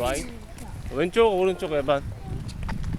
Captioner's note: Korean